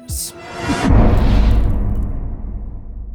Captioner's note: impact